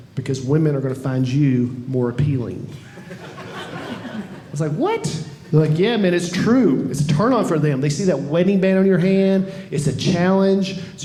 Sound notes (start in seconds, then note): 2.8 audience laughing